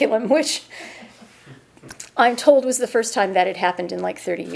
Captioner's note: chuckling